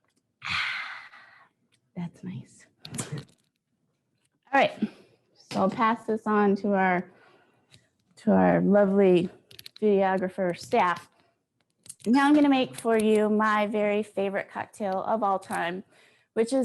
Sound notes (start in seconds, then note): 0.4 sighs